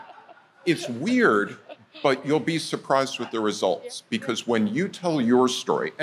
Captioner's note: laughter